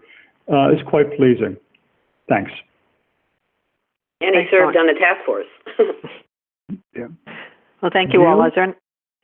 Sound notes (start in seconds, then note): 5.6 chuckles